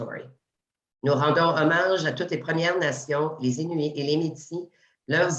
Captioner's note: speaking French